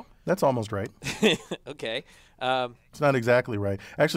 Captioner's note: laugh